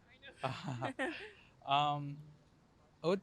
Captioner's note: laugh